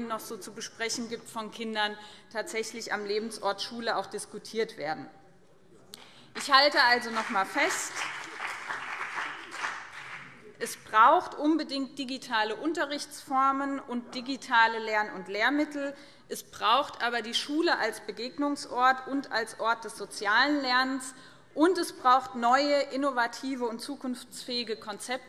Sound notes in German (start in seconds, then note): 6.3 Beifall BÜNDNIS 90/DIE GRÜNEN